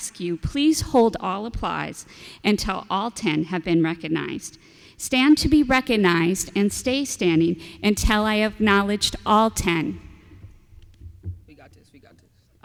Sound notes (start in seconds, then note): none